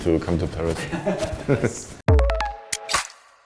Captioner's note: laughs